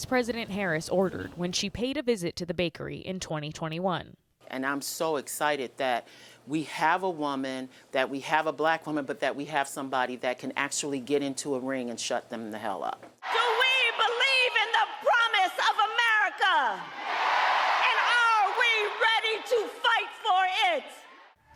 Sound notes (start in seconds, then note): 17.4 applause; 17.8 cheering